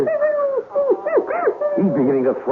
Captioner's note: baby crying